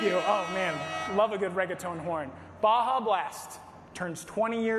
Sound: horn sounds

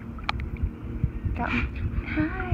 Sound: baby manatee breathing

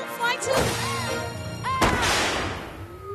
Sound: crash

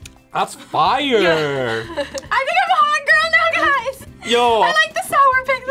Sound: laughs

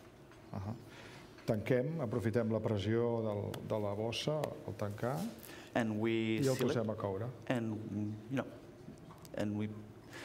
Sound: speaking catalan

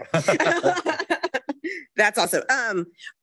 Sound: laughing

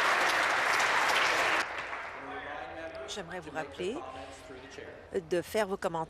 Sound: applause

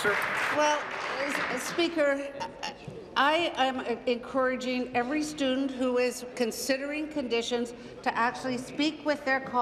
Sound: applause

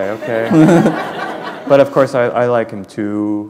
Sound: laughter

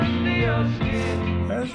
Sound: sniffling

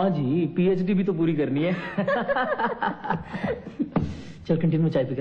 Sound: laughs

